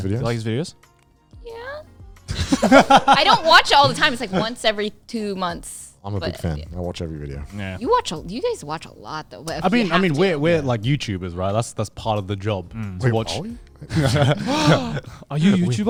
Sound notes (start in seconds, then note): 2.3 all laughing